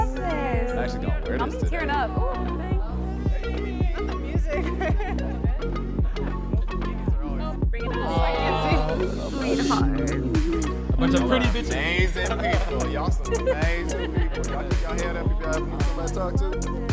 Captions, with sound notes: I love this. - I be tearing up. - With the music. - Sweethearts. - A bunch of pretty bitches. - Amazing people. (all chattering)